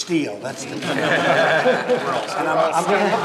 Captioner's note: laughter